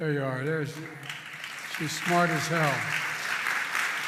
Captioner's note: applause